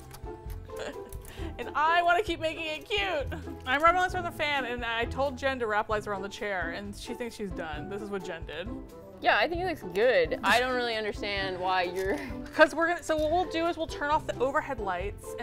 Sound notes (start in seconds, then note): 11.9 laughs